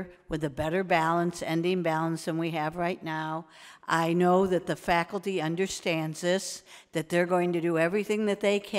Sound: none

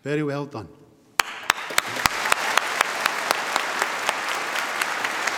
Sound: audience applauding

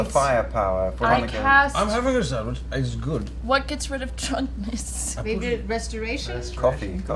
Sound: laughs

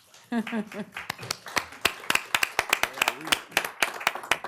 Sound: applause

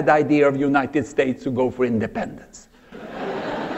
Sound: laughter

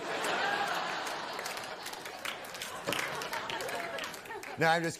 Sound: audience laughs, applauds

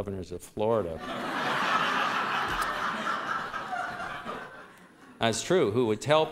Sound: laughter

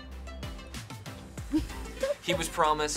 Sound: React laughs

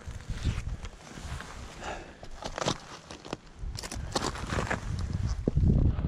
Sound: footsteps crunching

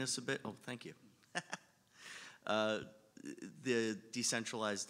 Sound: laughs

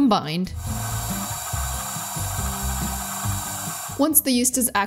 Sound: mixer whirring

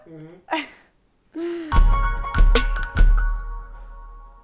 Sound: laughs

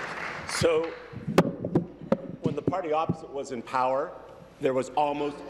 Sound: applause

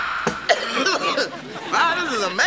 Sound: coughing

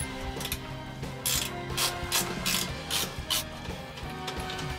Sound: tools clanking; ratchet clicking

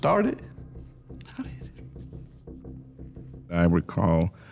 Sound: quietly

